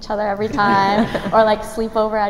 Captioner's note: laughing